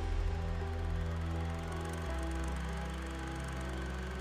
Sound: film reel hums

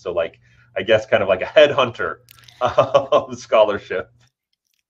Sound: laughs

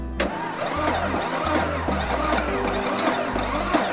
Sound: engine revving

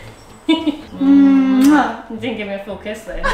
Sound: giggling and smooching

